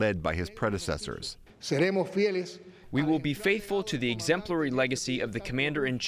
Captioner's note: through translator